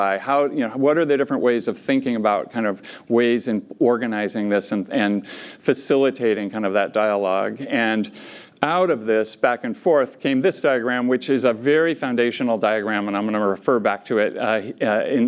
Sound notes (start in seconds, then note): none